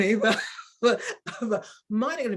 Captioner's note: woman chuckling